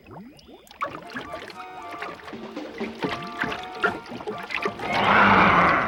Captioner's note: water sloshes; dramatic music; creature snarls